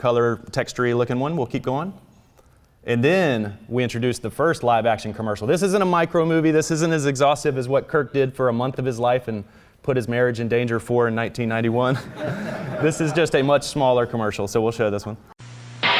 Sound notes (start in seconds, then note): 11.8 laughs; 15.8 crash!